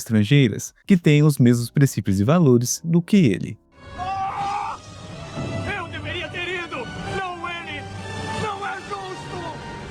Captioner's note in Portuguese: grito